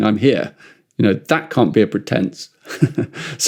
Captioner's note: laughs